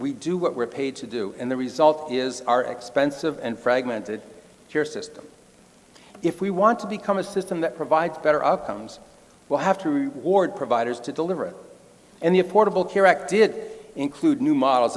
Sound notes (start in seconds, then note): none